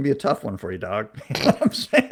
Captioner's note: laughs